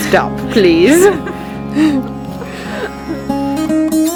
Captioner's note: laughing